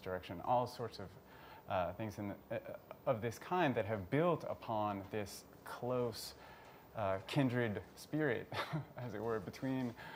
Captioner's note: chuckles